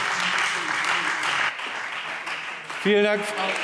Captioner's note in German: Beifall Freie Demokraten